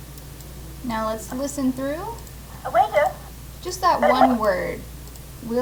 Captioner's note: recording: "Waiter"